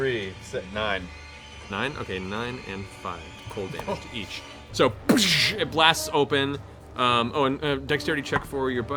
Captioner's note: bang